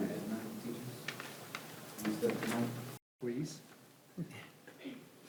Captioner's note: indistinct conversation